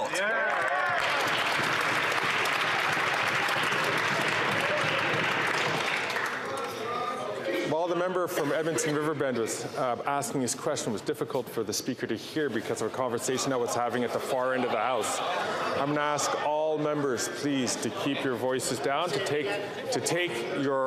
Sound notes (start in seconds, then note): 5.2 some Applause